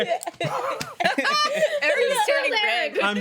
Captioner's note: laughing